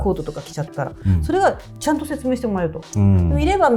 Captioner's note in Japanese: 咳払い